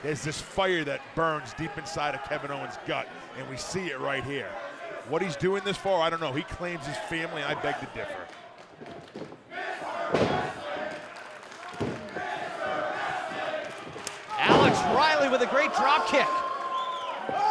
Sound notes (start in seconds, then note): 11.2 fans chanting